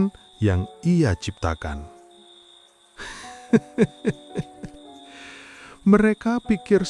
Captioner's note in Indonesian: tertawa